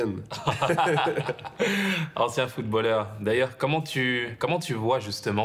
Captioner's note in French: rires